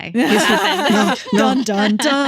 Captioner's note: laughing